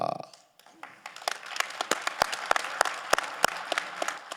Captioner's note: generous applause ringing